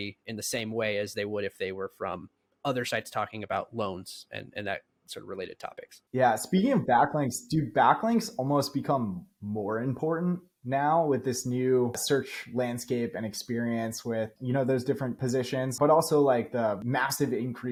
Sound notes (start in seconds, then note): 15.2 speaking